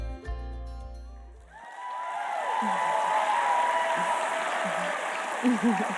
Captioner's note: applause